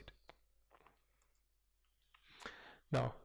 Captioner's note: pause